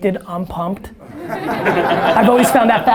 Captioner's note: audience laughter